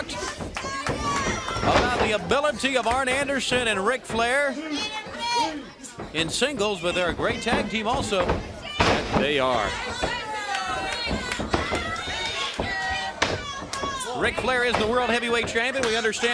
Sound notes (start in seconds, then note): 2.0 crowd cheering